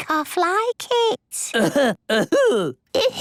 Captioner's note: coughing